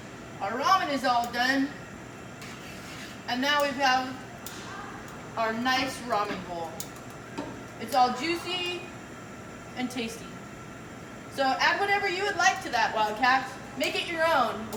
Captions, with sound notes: Our ramen is all done, and now we have our nice ramen bowl. [tongs click] It's all juicy and tasty, so add whatever you would like to that, Wildcats, make it your own.